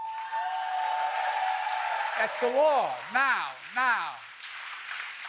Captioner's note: applause